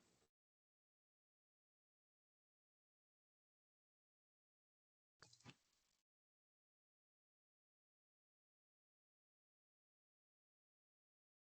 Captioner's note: pause